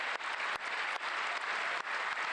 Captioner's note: cheers and applause